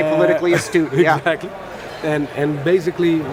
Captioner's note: laughs